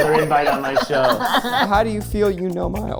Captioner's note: group laughing